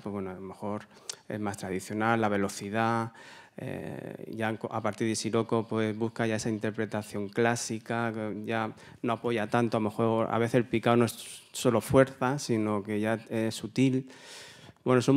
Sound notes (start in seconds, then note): 10.0 continues in Spanish